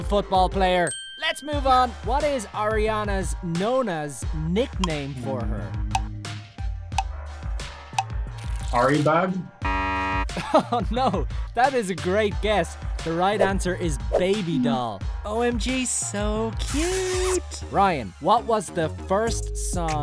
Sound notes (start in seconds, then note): 3.7 timer ticking; 9.6 buzzer buzzes